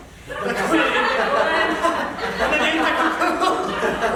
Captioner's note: the fraternity laughs